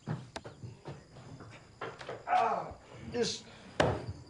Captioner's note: groaning